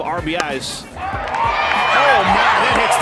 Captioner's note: crowd cheering